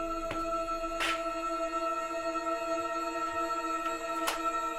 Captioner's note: boot thuds and scrapes